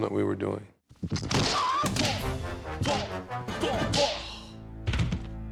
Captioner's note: both grunting